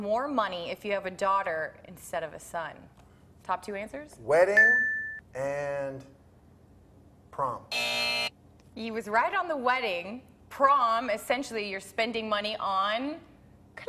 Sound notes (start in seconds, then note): 7.7 buzzer